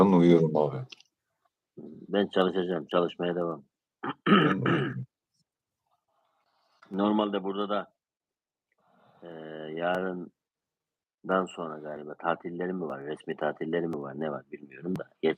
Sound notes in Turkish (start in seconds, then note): 4.0 öksürme; 4.0 boğazını temizler